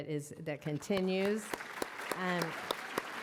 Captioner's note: applause